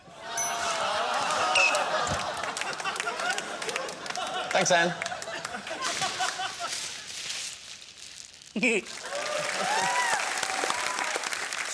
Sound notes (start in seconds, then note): 0.7 laughter; 2.3 applause; 8.1 chuckles; 8.9 cheering and applause